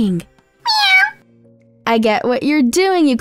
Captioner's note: meowing